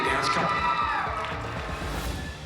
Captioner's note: cheering